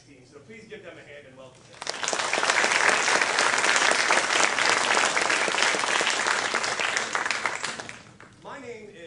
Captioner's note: clapping